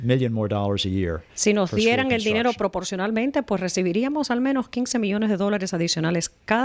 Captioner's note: Hablando ingl\s